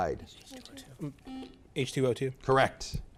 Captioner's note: buzzer beeps